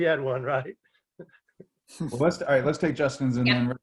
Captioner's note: laughing